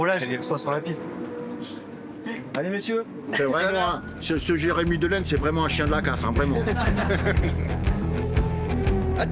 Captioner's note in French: rires